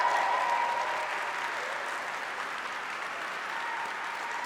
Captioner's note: applause